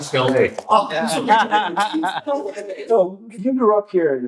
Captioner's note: all Laughing